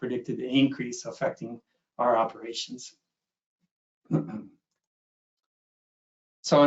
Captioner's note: clears throat